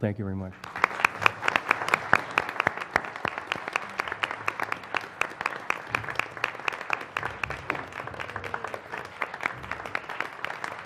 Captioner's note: applause